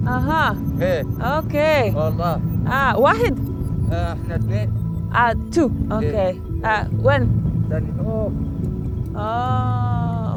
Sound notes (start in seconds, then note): 2.7 both speak foreign language